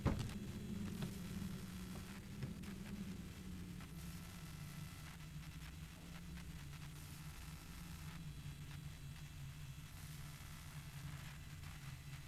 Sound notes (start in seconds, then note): 0.8 static